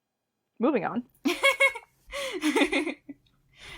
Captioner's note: laughs